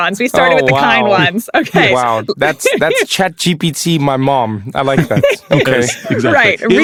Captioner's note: laugh